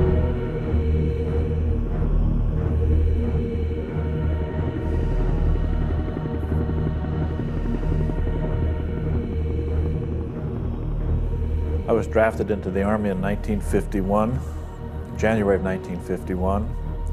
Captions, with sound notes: (helicopter rumbling) - I was drafted into the Army in 1951, January of 1951.